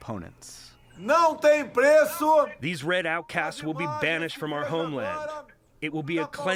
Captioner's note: through translator